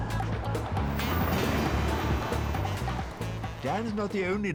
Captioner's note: trains rumbling